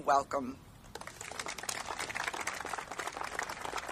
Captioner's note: applauding